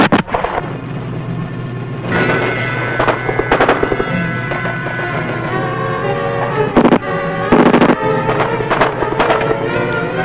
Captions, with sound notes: - Let it go, boy. Let it go. (dramatic music) (gun firing)